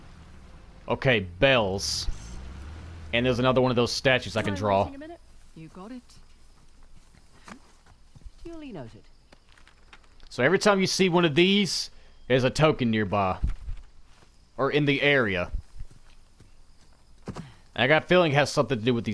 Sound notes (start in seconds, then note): none